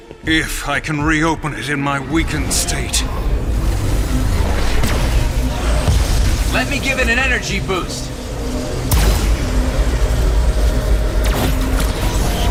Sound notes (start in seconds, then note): 3.3 rumbling